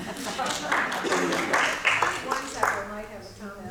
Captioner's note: applause